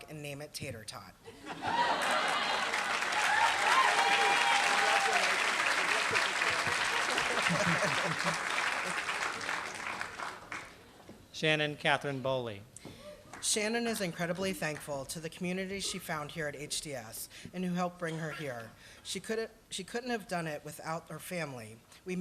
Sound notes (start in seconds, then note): 2.2 applause